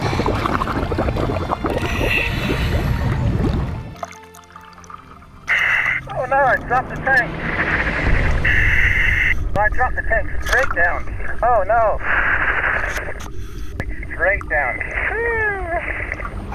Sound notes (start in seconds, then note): 1.1 water bubbles